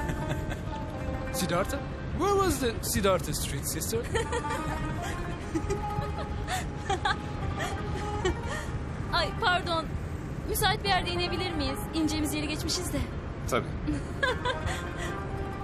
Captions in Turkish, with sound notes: (Gülüyor) Ay, pardon. Müsait bir yerde inebilir miyiz? İneceğimiz yeri geçmişiz de. Tabii. (Gülüyor)